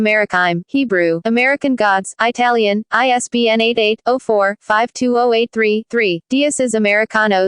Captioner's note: Italian